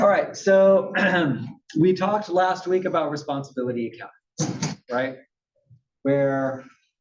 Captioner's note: cough